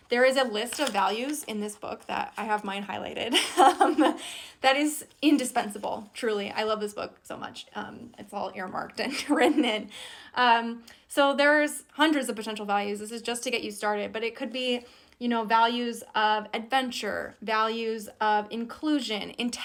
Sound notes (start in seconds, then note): 3.4 laughs